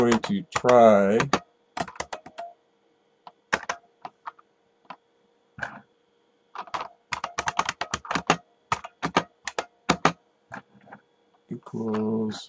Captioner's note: typing